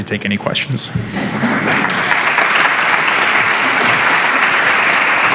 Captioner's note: applause